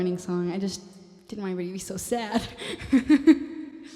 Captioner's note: laughs